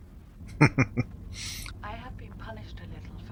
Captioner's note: chuckling